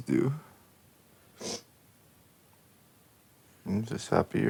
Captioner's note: Megan whimpering; Megan sniffing